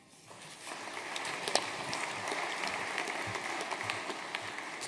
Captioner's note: audience applauding